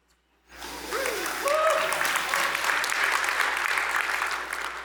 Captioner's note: applause